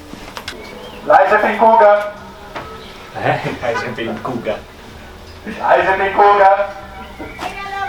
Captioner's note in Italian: macchina che sta parcheggiando